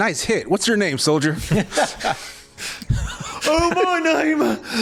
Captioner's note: laughing